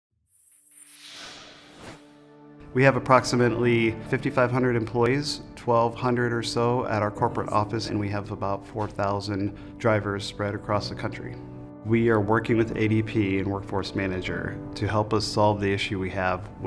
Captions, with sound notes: (logo whooshes) (gentle music) - We have approximately 5,500 employees, 1200 or so at our corporate office, and we have about 4,000 drivers spread across the country. We are working with ADP and Workforce Manager to help us solve the issue we have